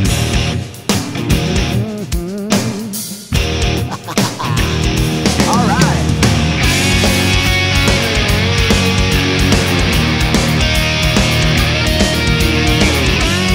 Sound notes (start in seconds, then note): 1.7 mmm mm mm mm; 3.6 hahaha